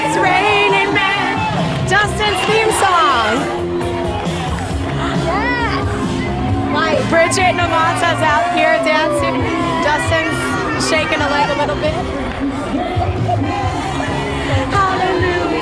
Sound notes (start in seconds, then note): 7.3 crowd cheering